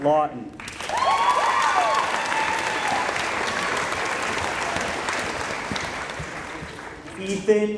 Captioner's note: applause